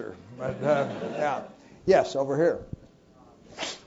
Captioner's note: laugh